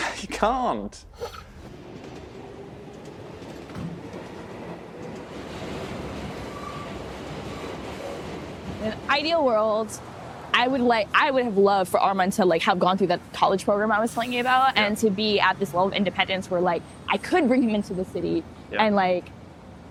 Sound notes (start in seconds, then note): 1.2 train egine whirring